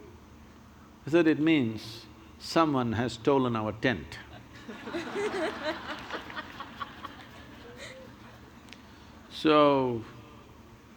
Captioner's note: laughter